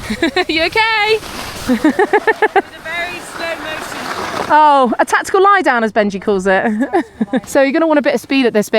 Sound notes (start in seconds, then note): 1.6 laughs